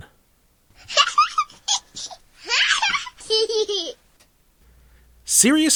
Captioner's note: baby gibberish